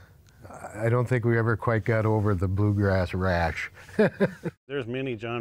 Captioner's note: laughs